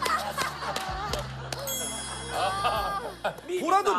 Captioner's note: just laughing